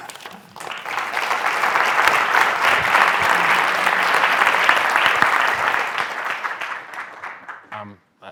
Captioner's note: applause